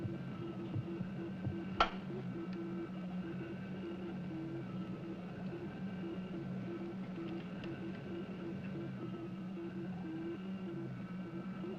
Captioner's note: rhythmic thumping